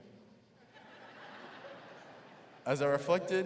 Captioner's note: crowd laughing